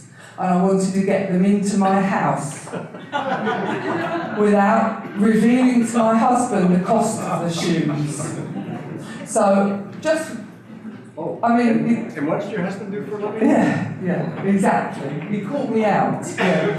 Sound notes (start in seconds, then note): 2.6 audience laughter; 7.8 audience laughter; 13.2 chuckles